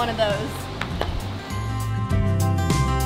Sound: hand patting horse; mellow music

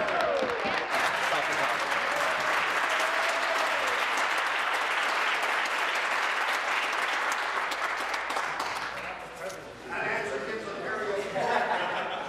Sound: applause

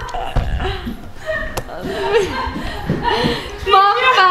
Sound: laughing

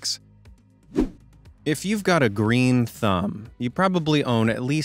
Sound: swoosh

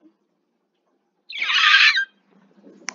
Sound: screeches alittle

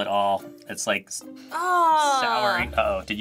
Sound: groans

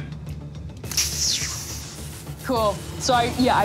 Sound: electricity crackling

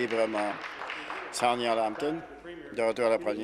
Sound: applause

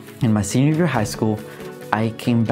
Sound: voiceover

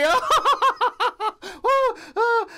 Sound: laughs

